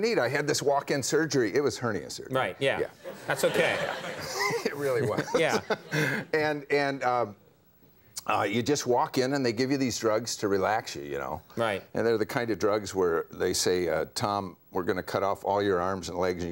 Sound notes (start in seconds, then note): 3.1 chuckles